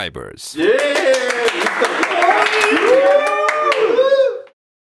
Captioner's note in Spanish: aplausos